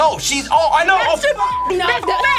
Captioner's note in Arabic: زمارة